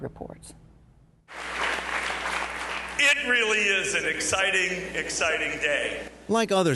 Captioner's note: applause